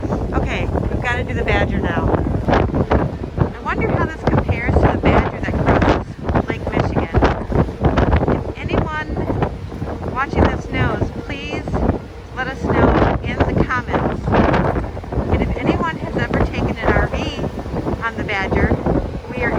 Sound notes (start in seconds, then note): 5.5 wind blowing